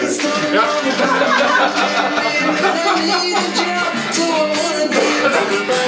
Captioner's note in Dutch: gelach